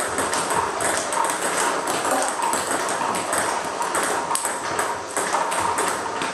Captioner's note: ball ping pong hitting continues